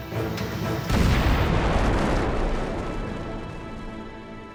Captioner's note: loud explosion